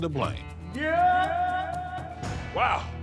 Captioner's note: voice echoing